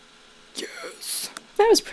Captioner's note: whispers with a lisp